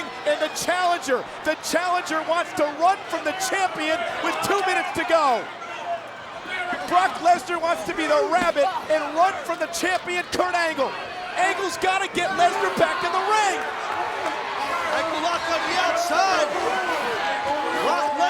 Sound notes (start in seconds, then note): 14.0 audience cheering and clapping